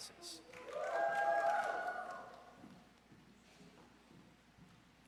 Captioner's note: audience cheers